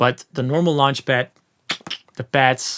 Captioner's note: clicking sound with mouth